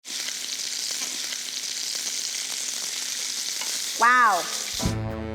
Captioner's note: sizzling